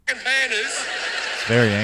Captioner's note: television audience laughs